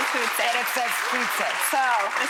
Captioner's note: crowd clapping